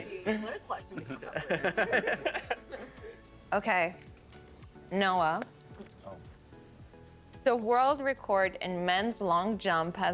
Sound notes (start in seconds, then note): 1.3 all laughing